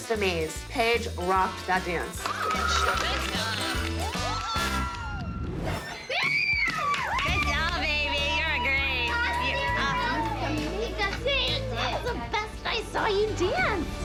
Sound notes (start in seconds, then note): 3.6 cheering; 4.1 girls shrieking